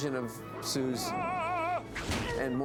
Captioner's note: grinch vocalizing